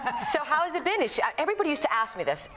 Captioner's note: laughs